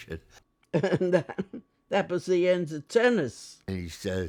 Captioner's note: laughing